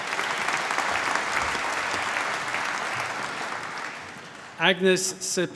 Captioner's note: applause